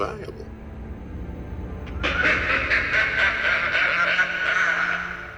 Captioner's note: laughs